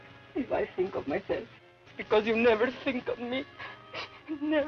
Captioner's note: sobs